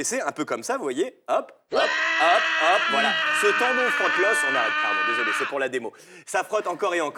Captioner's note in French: cri